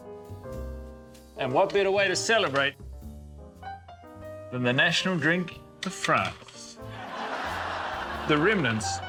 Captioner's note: laughter